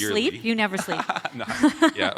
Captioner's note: laughs